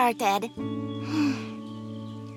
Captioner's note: sighs